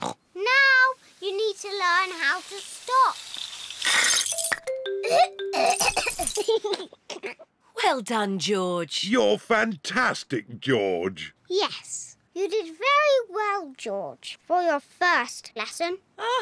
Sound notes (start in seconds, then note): 0.0 snorts; 5.0 splutters; 5.5 giggles